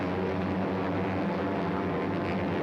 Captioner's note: airplane whirring